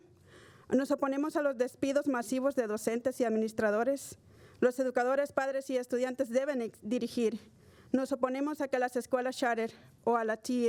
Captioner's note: speaking spanish